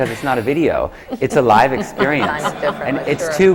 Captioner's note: laughter